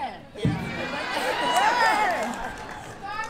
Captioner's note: cheers